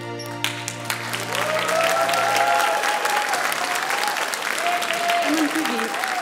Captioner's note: audience cheering and applauding